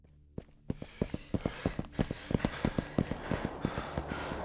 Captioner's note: footsteps